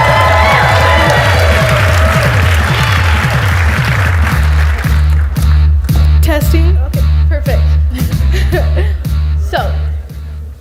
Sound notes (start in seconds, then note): 0.0 audience applauds; 0.3 upbeat rock music; 7.8 laughs